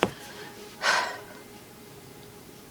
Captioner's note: sigh